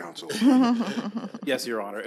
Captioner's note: all chuckling